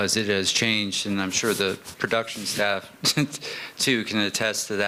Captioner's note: chuckeles